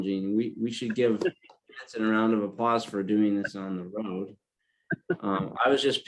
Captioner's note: laugh